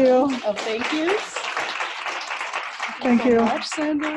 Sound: audience applauds

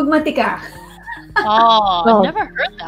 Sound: chuckles

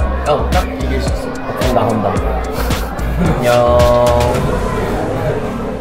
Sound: laughing

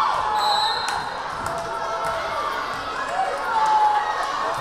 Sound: whistle blaring

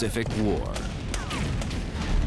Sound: gunshots; theme music

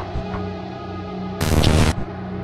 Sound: static noise

